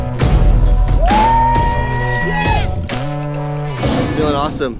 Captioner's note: rider whooping